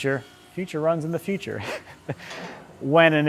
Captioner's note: chuckles